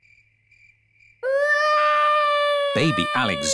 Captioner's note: baby alexander crying